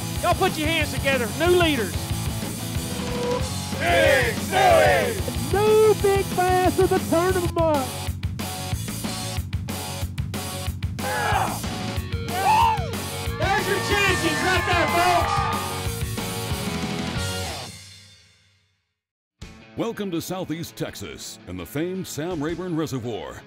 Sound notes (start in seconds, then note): 3.8 chants; 12.3 cheering